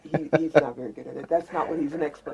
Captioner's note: laughs